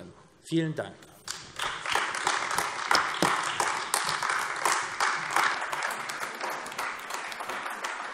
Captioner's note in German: Beifall AfD